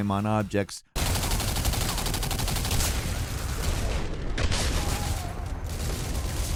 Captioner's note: guns blasting; explosions booming